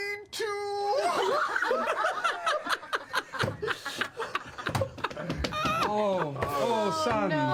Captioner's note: all laugh